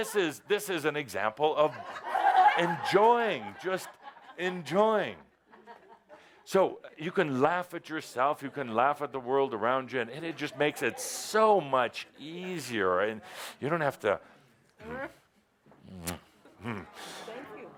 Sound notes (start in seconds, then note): 4.6 more laughter